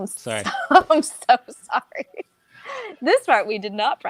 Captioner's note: laughs